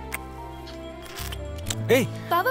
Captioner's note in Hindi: आइसक्रीम गाड़ी की घंटी बजती है